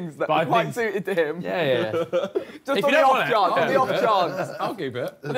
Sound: group chattering

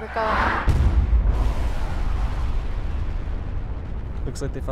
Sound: nuclear bomb explosion

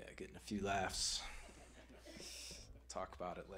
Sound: audience chuckling

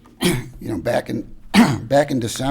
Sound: clears throat

